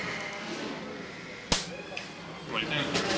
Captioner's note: taco crunches; hand slaps head; drum taps